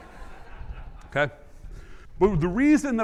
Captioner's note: audience laughing